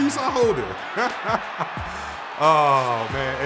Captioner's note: laughing